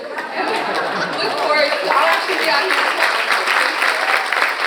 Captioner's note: audience applauding